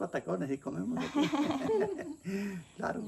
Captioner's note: laughter